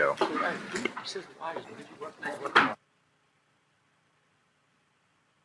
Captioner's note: people chattering